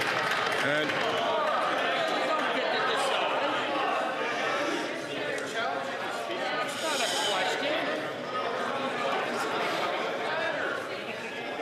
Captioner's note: some Applause